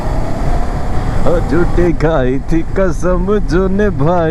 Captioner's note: humming a song